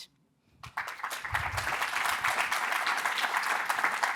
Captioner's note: audience applauding